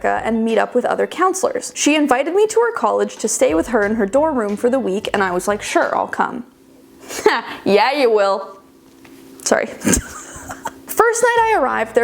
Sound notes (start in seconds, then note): 9.8 chuckling